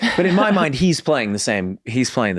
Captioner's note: laughs